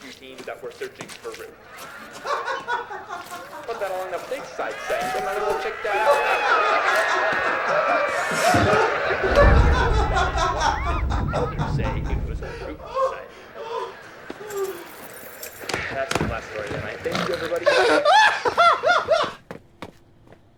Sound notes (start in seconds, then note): 1.1 audience laughs; 2.0 dad laughs; 4.6 audience cheers and laughs; 9.0 dad laughing; 16.6 dad snorts